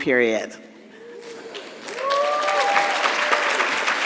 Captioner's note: audience clapping